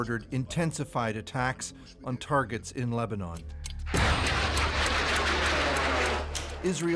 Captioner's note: speaking alternate language